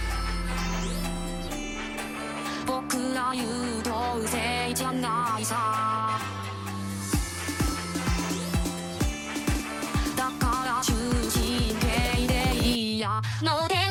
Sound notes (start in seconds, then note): 2.3 speaking in foreign language; 3.6 upbeat music; 5.9 speaking in foreign language